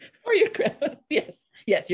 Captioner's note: all laughing